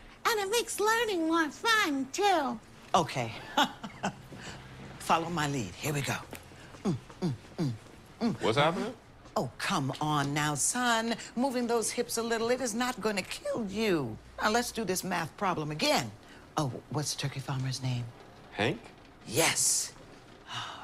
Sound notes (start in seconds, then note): 3.4 laughs; 6.6 humming